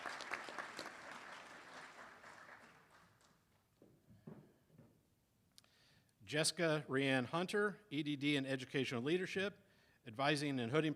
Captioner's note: applause